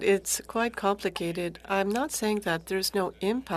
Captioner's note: speaking French